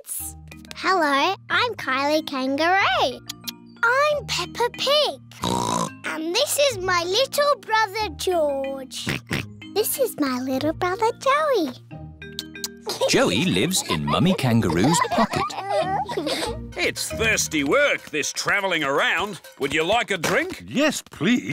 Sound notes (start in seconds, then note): 5.4 oinks; 9.0 oinks